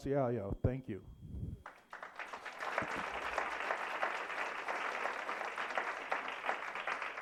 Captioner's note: applause